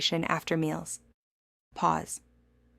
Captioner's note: pause